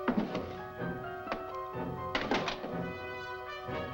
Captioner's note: drawer clattering